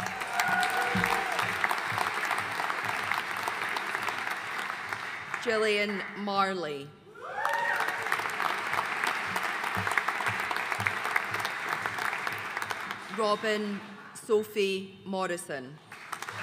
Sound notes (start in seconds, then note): 0.0 audience applauding; 7.1 audience cheering and applauding; 15.9 audience cheering and applauding